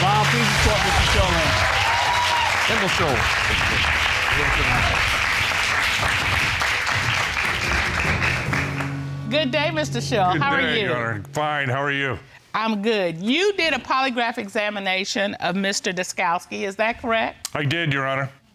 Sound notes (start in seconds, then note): 0.1 audience applauding; 2.3 audience cheering